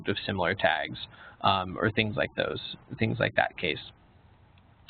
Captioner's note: none